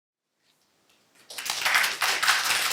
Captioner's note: applause